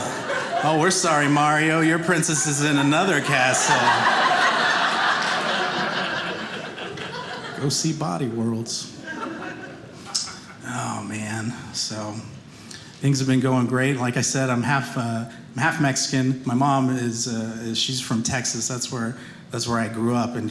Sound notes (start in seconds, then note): 4.2 audience laughing